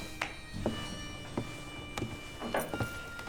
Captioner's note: shoes jingling